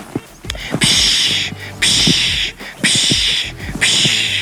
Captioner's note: loud shushing